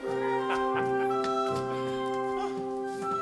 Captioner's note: Frank laughs; cheerful orchestra music